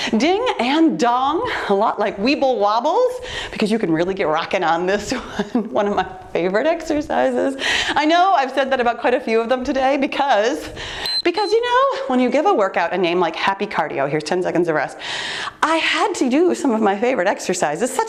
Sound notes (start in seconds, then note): 5.4 laughs; 11.0 timer beeps